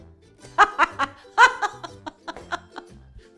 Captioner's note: chuckles